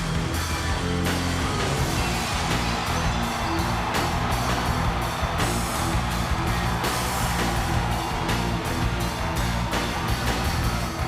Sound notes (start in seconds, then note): 0.2 upbeat music continues; 2.6 audience cheers